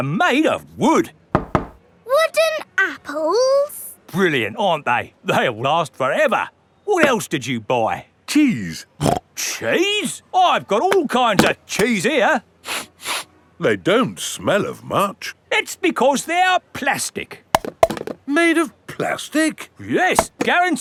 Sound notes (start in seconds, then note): 1.3 knocks; 9.3 snorts; 12.7 sniffs; 18.1 clunks